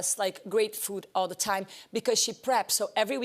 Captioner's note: none